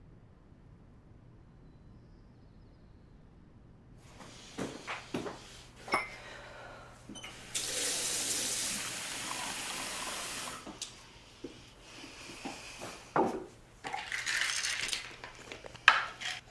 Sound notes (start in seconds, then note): 5.9 glass clinks; 7.8 water swooshing